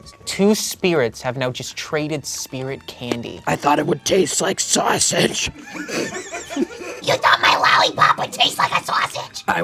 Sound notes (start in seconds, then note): 4.9 spirits laughing; 7.2 screeches